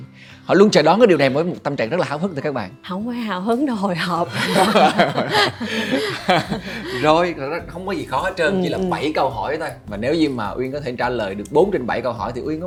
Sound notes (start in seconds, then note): 4.2 laugh